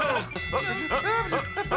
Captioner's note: bell dings; both grunt